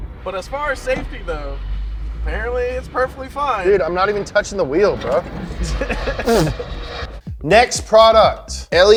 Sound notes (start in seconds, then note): 6.2 spitting